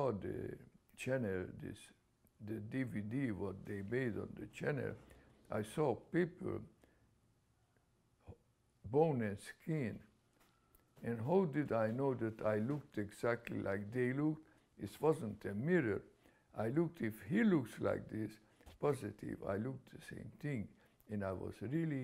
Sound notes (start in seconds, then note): 7.4 pauses for 3 seconds